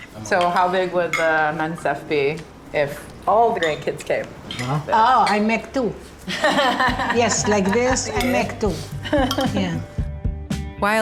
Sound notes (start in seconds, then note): 6.2 laughs; 10.0 upbeat music